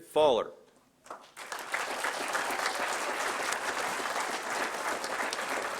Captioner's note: applause